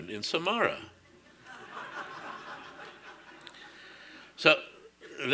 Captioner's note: audience laughing